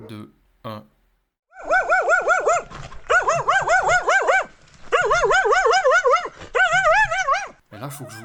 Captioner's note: annoying barking